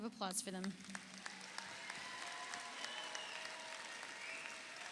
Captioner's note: audience applauds